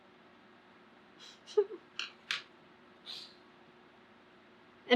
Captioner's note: laughs